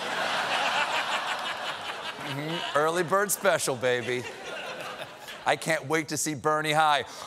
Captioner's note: laughter